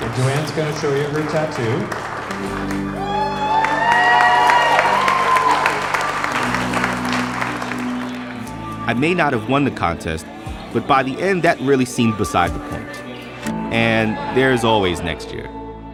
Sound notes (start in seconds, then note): 3.2 crowd cheers